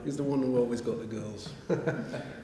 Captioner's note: laughter